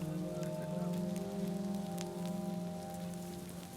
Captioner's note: fire crackling